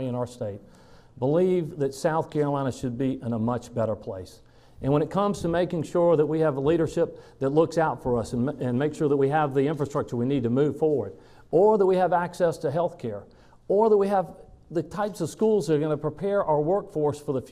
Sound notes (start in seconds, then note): none